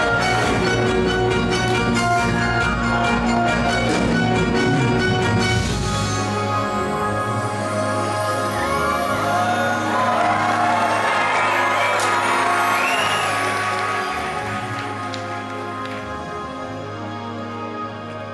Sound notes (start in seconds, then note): 0.2 light dramatic music; 8.6 audience cheering